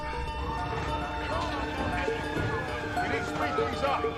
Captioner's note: men chattering; distant siren wailing